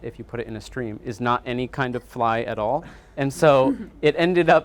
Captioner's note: audience chuckling